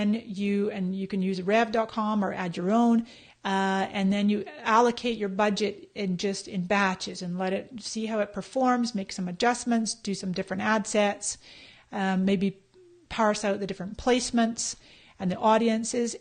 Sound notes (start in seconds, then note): none